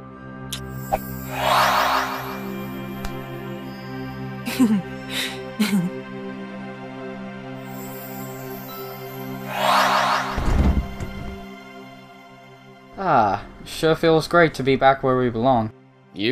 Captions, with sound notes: *not awesome kiss noise!!* *magic wooshy sound* Hehehe! *magic wooshy sound* Ahh.. sure feels great to be back where we belong.